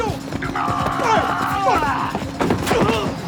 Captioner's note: grunting